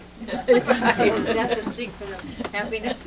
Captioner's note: laughter